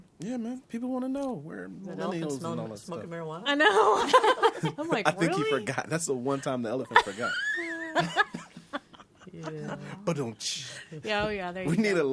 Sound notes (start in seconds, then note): 3.5 all laughing; 6.2 others laughing